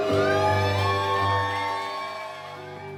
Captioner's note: cheering